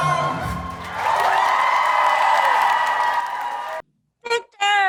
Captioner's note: audience cheers